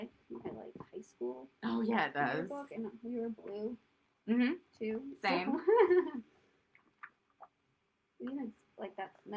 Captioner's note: laughter